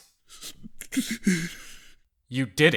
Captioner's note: sobbing